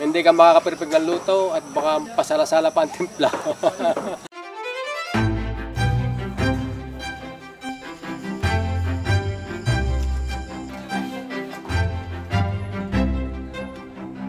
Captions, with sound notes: the outcome might be bland and it won't be perfect. (laughs) (violin music)